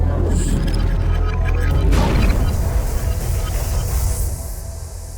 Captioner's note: main thrusters ramping up; main thrusters firing